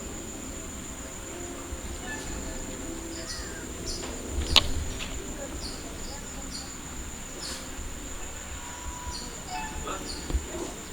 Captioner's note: birds chirping, with distant traffic noise